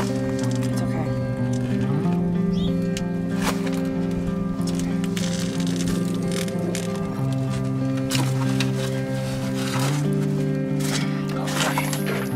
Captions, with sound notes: It's okay. It's okay. [Growl] Good boy.